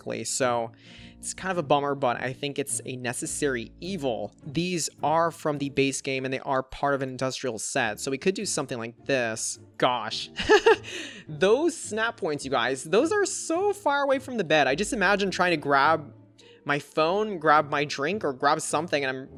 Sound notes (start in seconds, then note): 10.4 laughs